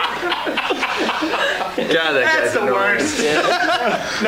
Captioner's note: laughter